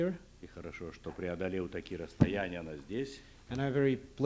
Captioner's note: non-english speech